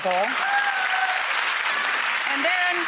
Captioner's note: audience applause